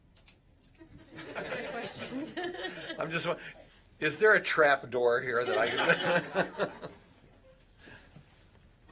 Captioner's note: laughter